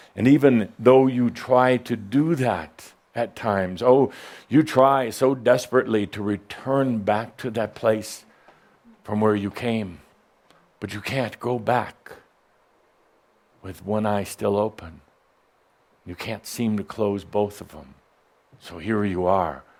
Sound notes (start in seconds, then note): none